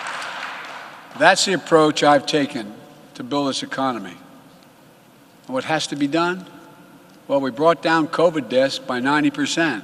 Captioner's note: applause